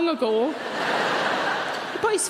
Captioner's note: audience laughing